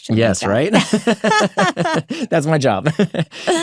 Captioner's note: both laugh